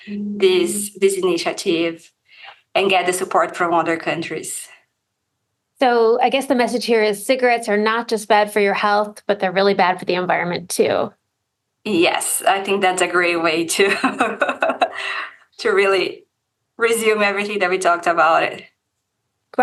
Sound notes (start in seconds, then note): 13.9 laughs